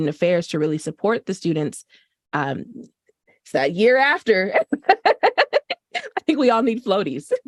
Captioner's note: laughter